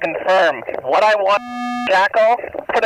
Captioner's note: drowned out by beeping